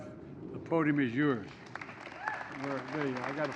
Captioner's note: applause